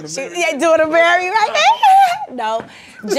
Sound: wailing

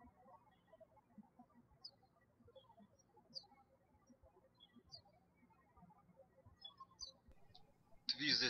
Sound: birds chirping

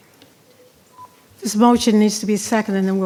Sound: speaking faintly

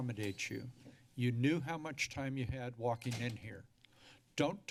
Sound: door locks

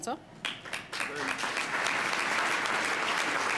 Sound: applause

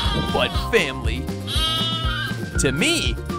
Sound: bleating; bleating

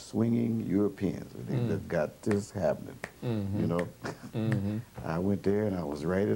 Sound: snaps fingers

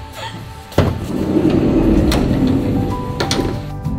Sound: van door slides

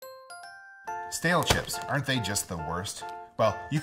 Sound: voiceover

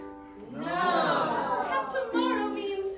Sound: crowd

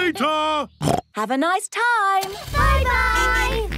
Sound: snorts

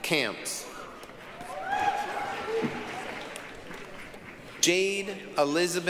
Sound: applause, cheering

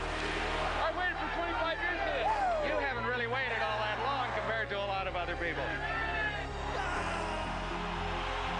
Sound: cheering and Applause; chanting

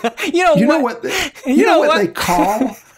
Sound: chuckles

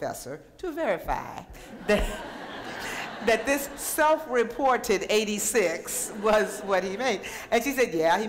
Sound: laughter

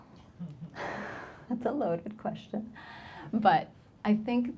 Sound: laughs

